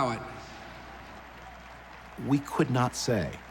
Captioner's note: crowd applauding